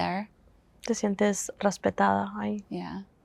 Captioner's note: Spanish